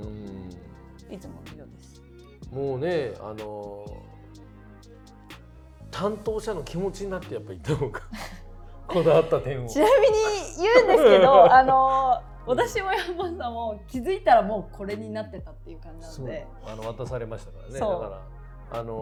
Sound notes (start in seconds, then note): 15.6 laughs